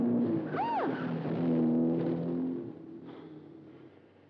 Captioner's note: June shrieks